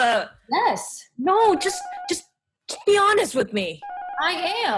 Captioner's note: apartment buzzer